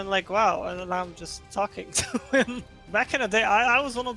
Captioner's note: laughs